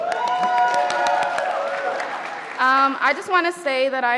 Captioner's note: audience applauding